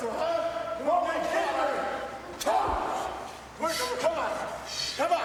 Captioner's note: people chattering